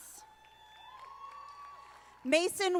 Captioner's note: audience applauding